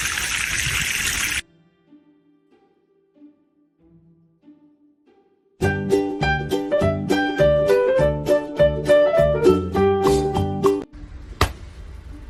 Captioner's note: water Splashing; upbeat Music